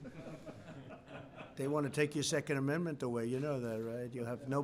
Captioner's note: laughter